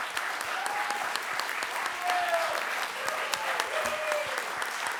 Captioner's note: audience applauds